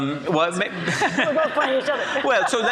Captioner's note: audience laughs